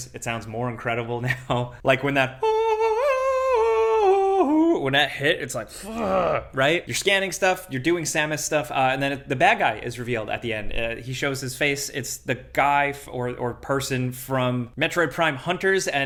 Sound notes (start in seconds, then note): 2.1 vocalizes